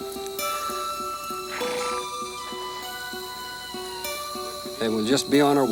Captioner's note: horse snorts